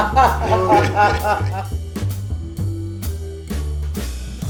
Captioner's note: guests laugh; relaxed jazz music continues